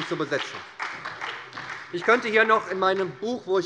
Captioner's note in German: Beifall bei der SPD